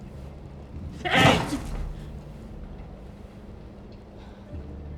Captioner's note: slams table